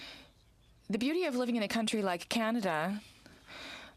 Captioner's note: speaking french